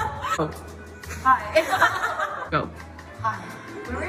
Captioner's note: laughing